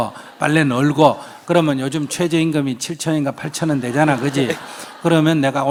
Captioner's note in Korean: 청중 웃음